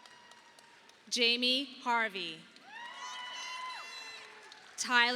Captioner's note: audience applauding